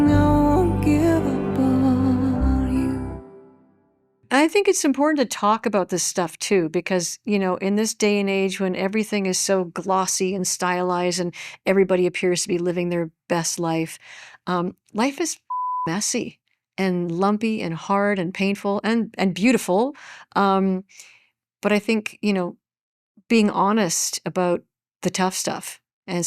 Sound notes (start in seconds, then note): 15.5 beep